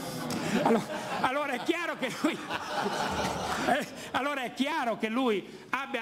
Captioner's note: laughing